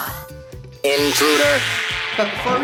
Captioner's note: robotic Voice